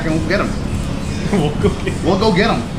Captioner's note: laughing